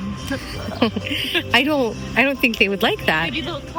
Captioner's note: hoots